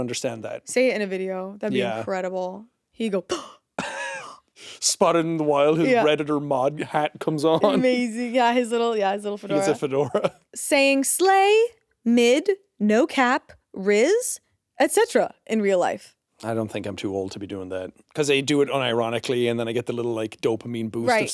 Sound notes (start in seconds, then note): 4.5 gasping; 9.5 chuckles